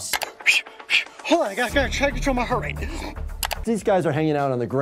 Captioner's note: exhales